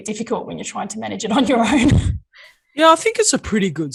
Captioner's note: laughs